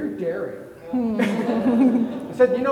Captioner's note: everybody laughing